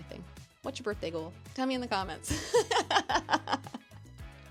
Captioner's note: laughs head off